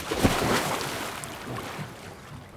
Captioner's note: splashing